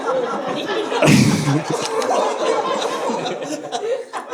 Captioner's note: audience laughing